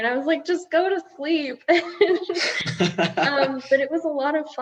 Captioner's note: group laughing